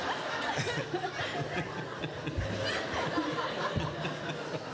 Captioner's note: everyone laughs